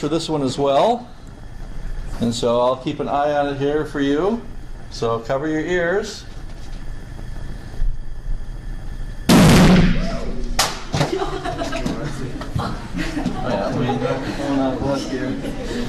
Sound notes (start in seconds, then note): 6.7 gas burner crackling; 9.3 thunderous explosion bangs; 10.9 debris clatters; 11.0 class laughs and chatters